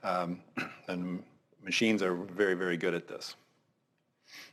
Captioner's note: cough